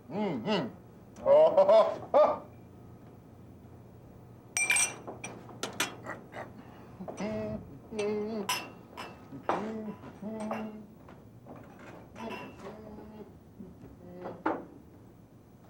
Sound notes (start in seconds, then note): 4.5 glasses clinking